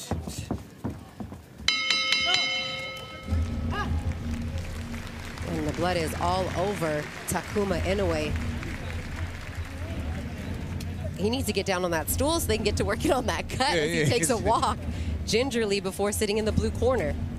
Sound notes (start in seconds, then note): 4.5 bell ring; 6.5 applause